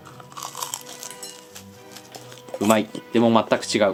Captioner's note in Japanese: 咀嚼音